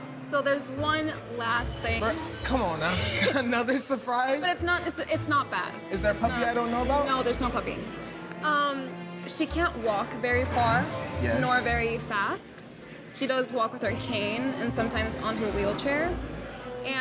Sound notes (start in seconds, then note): 3.4 both softly chuckle